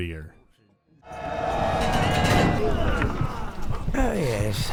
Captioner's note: battle cry interrupted by sudden confusion